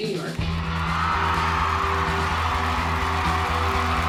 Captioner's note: crowd cheering